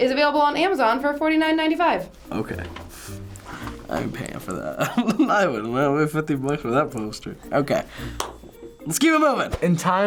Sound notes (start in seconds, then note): 4.6 laughs